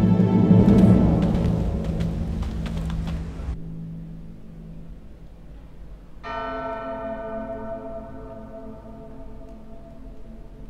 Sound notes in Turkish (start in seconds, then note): 0.1 Ayak sesi; 6.1 Çan sesi